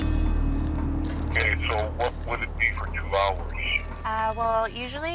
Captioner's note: on phone